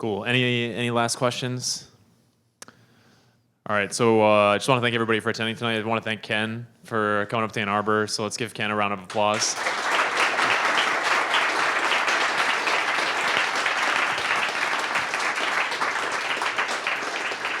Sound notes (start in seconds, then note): 9.7 applauding